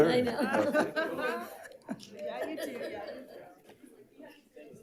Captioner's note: people chatter